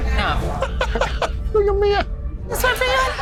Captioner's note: laughs